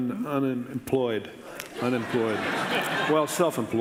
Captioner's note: audience laughing